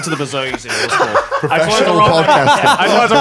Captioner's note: laughing